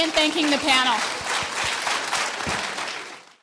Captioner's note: audience clapping